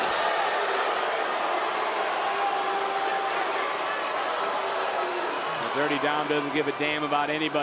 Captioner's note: crowd boos